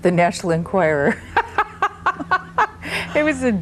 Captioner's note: laughs